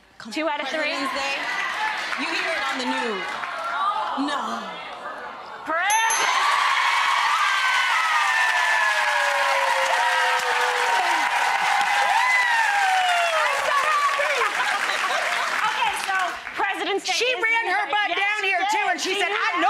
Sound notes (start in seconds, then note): 0.8 audience yelling; 7.2 audience cheering